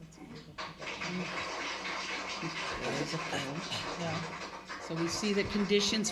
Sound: applause

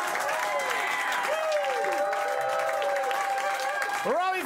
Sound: cheers and applause

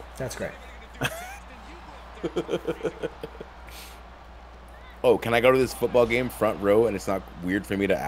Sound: laugh

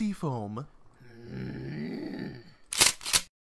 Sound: Oodle growls in frustration

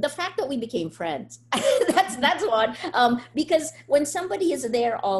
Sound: laughs

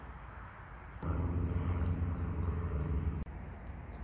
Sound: plane flying

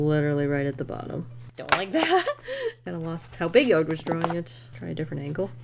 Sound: laughs

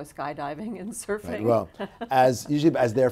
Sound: laughs

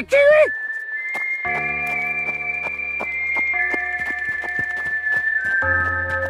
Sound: footsteps

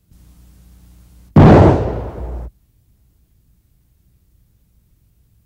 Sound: gun shooting

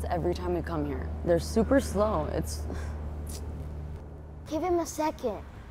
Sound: sighs

